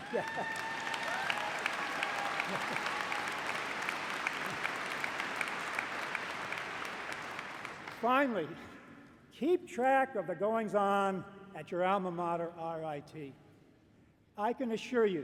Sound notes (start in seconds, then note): 0.0 applause